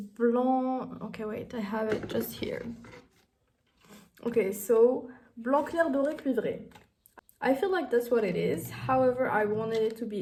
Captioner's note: reading in French